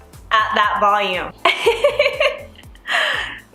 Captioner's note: laughs